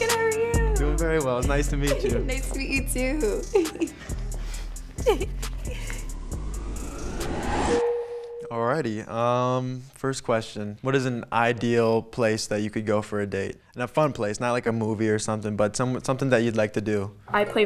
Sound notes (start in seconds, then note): 4.8 giggles; 7.2 text dings